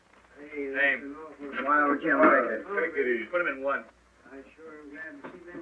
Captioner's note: chattering